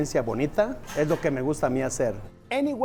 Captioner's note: in Spanish